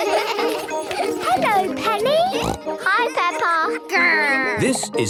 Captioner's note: laughter; snorting